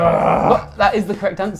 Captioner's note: groaning